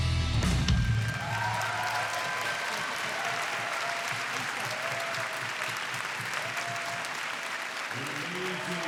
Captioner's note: applause